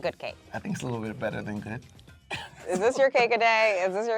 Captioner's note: laughing